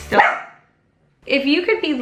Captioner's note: dog barking